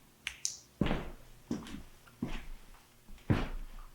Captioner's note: flashlight clicks